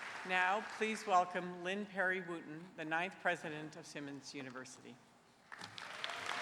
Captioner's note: applause